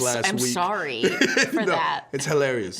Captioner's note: both laughing